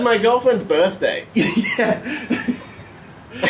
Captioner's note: laughs